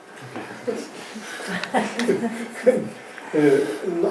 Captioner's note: audience laughs